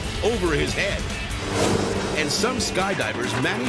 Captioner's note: screen swooshes